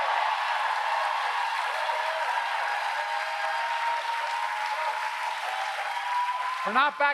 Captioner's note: applause